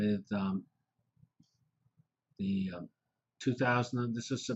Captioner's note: pause